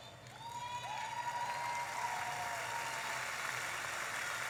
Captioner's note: audience applauding